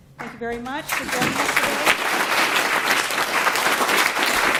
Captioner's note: applause